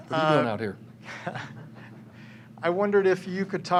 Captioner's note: chuckling